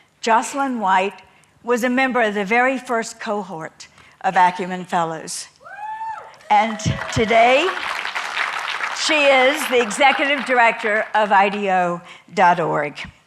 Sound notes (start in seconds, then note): 5.7 cheers from the audience